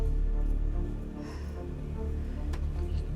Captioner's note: exhales